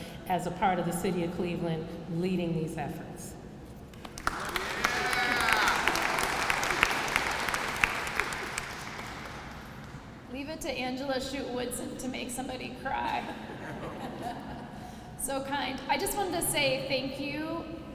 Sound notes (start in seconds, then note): 3.9 applause